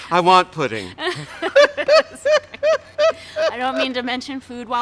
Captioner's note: laughs